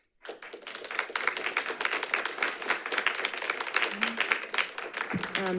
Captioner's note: audience applauding